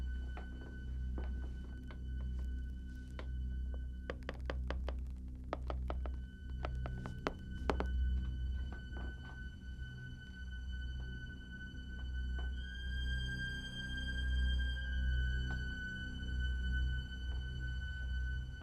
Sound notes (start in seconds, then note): 3.6 soft tapping